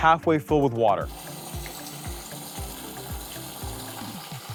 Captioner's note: water gushing